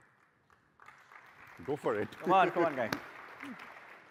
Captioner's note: applause